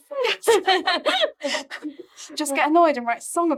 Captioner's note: all laughing